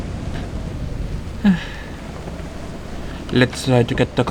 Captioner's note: sigh